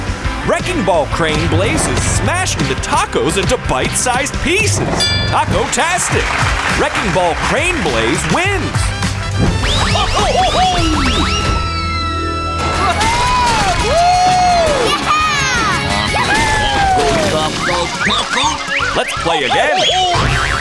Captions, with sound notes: Wrecking Ball Crane Blaze is smashing the tacos into bite sized pieces. Taco-tastic! Wrecking Ball Crane Blaze wins. Taco! [cheering] Taco, taco, taco, taco. Let's play again.